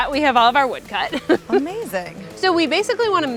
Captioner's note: laughs